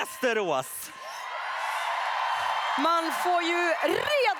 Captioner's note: applause